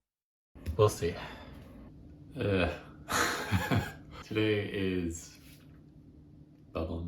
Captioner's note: sigh